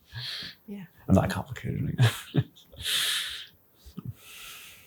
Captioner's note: laughs